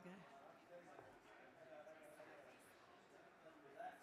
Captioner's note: crowd chattering